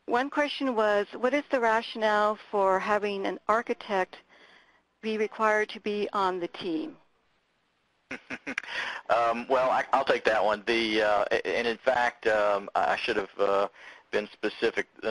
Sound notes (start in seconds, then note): 8.1 laughing